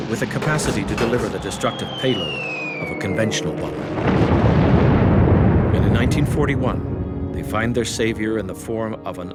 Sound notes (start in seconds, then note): 3.8 bomb explodes